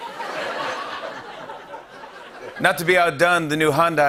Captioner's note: laughter